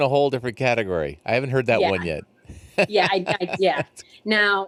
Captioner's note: laughs